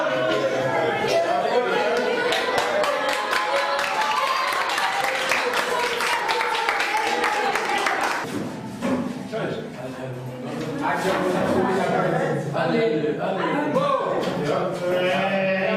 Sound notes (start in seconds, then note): 2.2 clapping